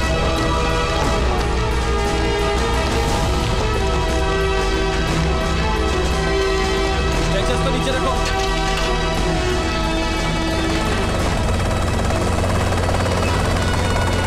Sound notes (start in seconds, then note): 10.4 Helicopter whirring